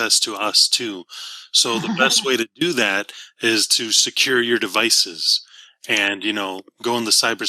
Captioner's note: laugh